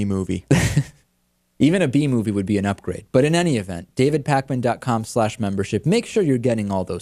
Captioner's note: laughs